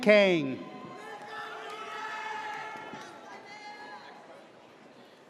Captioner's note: audience cheers